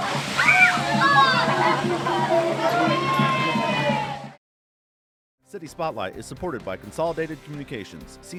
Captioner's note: kids screaming